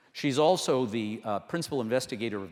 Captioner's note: none